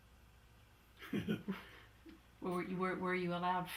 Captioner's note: laughs